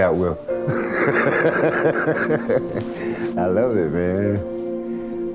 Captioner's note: laughing